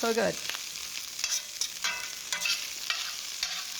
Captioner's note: sizzling